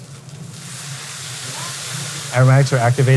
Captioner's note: oysters sizzling